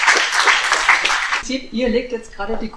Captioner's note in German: Applaus